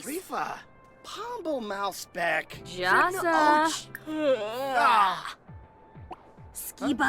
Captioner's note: both characters speaking in foreign language